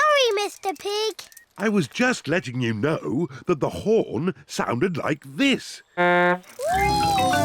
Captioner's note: honks horn